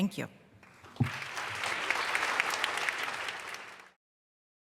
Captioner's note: applause